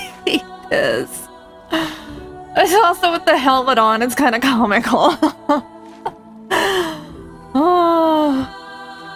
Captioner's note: laughs